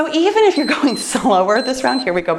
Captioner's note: timer beeps